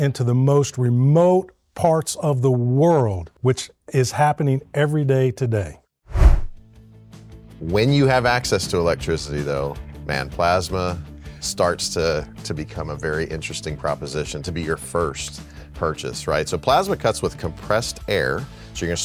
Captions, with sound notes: into the most remote parts of the world, which is happening every day today. (text whooshing) - When you have access to electricity, though, (upbeat rock music) man, plasma starts to become a very interesting proposition to be your first purchase, right? So plasma cuts with compressed air,